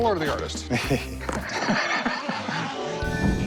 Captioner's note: laughter